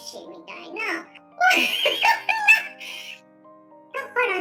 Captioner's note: laughs